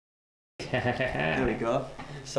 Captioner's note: laughs